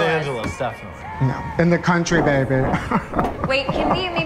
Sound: VERTON laughing

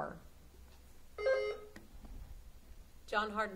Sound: buzzer sounding

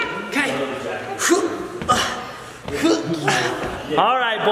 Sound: grunting

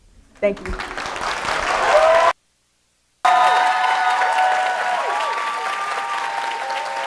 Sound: audience applauding and cheering

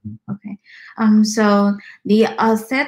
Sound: speaks mandarin

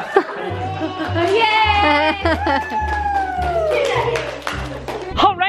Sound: cheers and applause

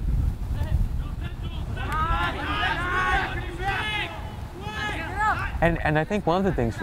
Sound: players talking and yelling

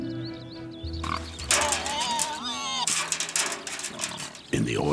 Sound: pig squeals

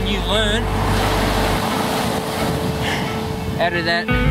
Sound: waves crashing

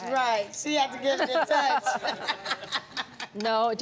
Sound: laughs

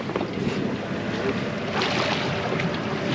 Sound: fish splashing; boat engine idling; fish splashing

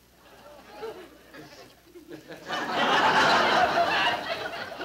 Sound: audience laughing

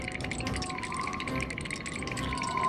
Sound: wind whistling

